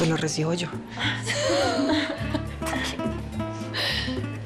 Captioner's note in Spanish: Risas